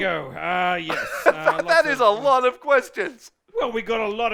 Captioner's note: laughs